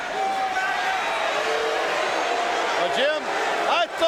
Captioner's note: audience cheering